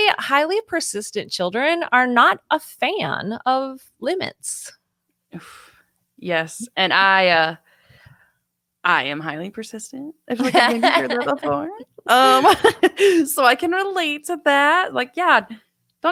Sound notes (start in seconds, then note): 10.4 laughs